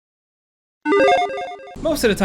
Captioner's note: electronic chiming